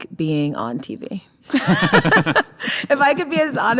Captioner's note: both laughing